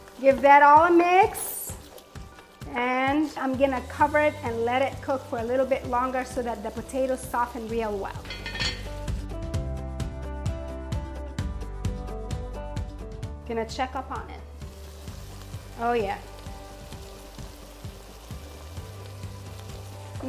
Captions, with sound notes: Give that all a mix, and I'm gonna cover it and let it cook for a little bit longer so that the potatoes soften real well. (lid clinks) (upbeat music) Gonna check up on it. Oh yeah. (sizzling)